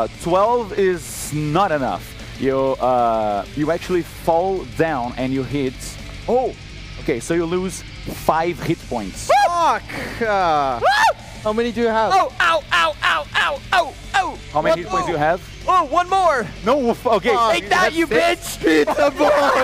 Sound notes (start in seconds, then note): 12.1 Jeffrey screams in pain